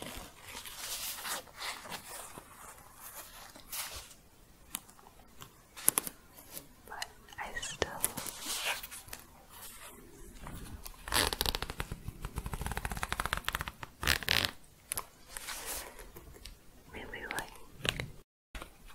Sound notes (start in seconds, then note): 0.0 scratching on zipper fabric; 9.7 zipper opening